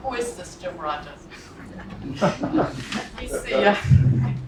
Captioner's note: laugh